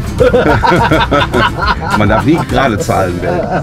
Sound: laughter

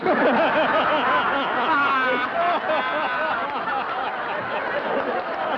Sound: laughter

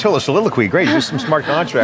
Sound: laughing

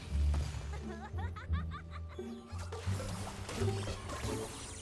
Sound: muahahahahahahah

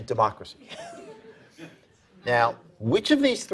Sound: participants laughing

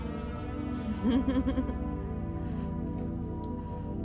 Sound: giggles

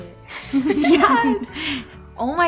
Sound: laughing

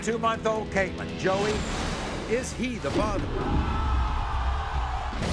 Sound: audience groans

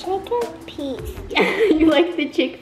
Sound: laughing

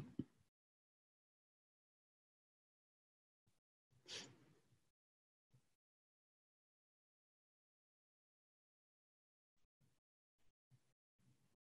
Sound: silence

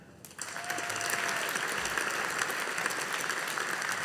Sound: audience applauding

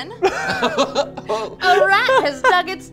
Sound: they laugh

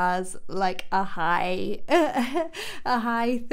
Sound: chuckles

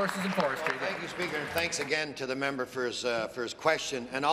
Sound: applause

